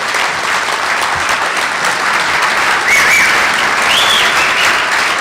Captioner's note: applause